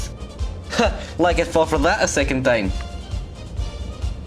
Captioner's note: awful Voice